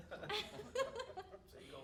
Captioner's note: all chuckling